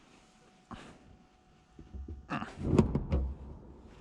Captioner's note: grunts, seat is being adjusted